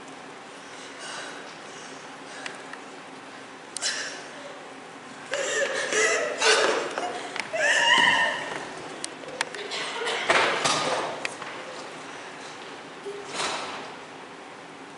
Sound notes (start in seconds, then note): 3.6 CHORUS weeping